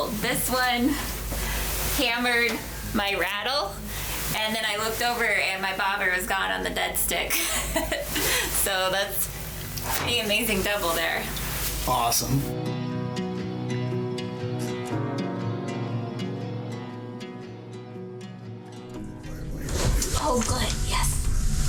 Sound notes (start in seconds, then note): 7.4 laughs; 12.7 gentle music